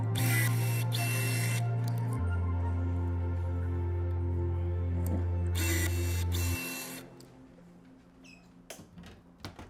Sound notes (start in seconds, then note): 0.1 drill whirs; 5.5 drill whirs